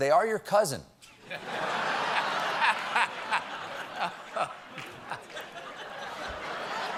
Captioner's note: laughter